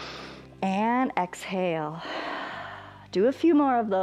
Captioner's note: exhales; inhales